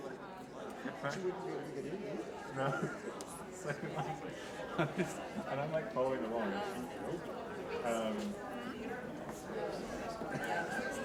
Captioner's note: quiet intermission chatter